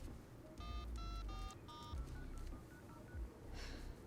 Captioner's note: phone beeping